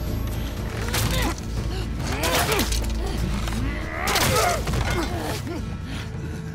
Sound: arrows hitting

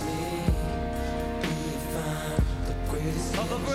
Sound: none

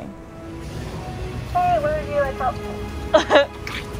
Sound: background music; background noise & radio chatter; chuckles

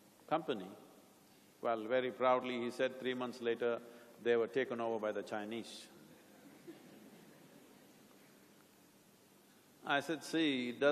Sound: laughter

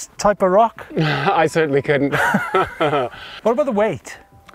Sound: laughing

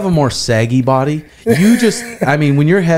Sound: laughs

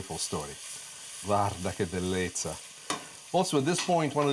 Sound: foreign language

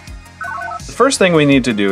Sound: analog beeps

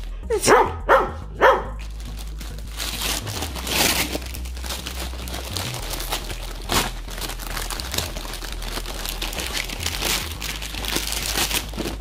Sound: Max barks

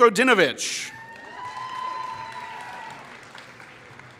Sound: applause

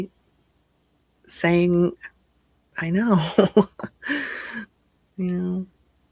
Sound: chuckles

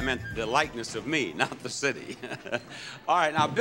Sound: laughing

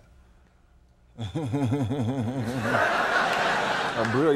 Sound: Shaq laughs

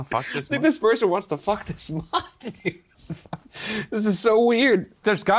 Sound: laughs

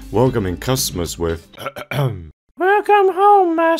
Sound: clearing throat

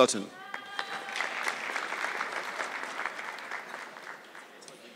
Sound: audience clapping

